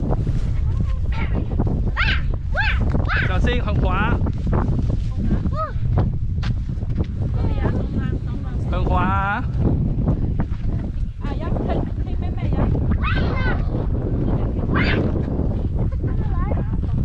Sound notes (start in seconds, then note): 2.5 kid roaring